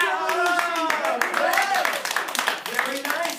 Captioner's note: applause